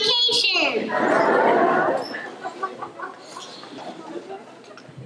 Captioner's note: laughter